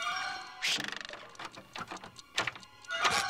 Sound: rattling

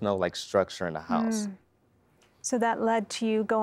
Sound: nnnh

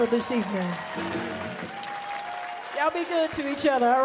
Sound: audience cheering

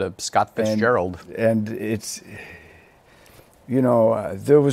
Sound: sighs

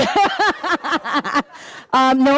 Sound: laughing

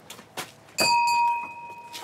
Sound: bell rings

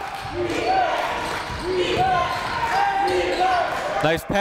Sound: crowd

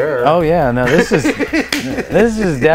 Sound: laughter

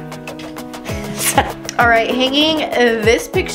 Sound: laughs

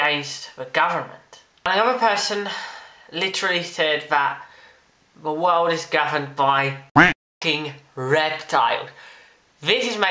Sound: quack

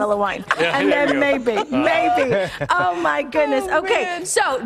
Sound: laughter

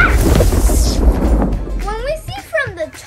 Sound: thunder rumbles

